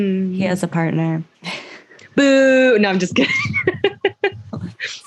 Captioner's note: laughter